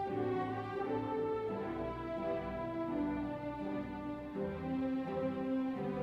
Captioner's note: none